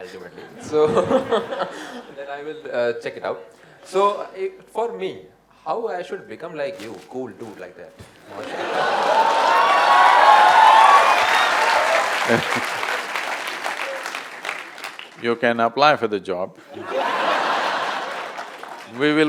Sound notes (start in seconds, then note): 13.7 cheers/Applause; 16.7 laughter